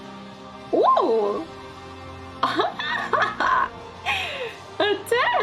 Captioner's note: laughs